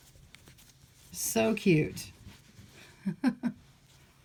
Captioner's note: giggle